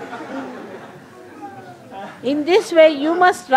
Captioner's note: laughter & applause